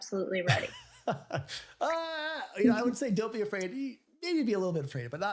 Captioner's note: chuckles